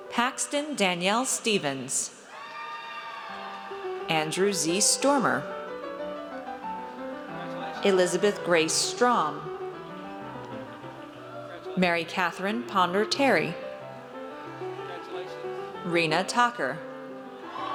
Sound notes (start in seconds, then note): 2.3 audience cheers; 17.4 audience cheers